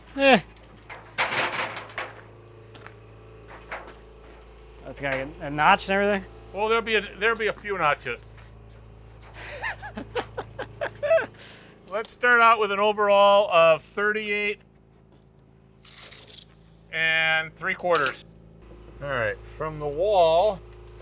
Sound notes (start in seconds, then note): 9.3 laughs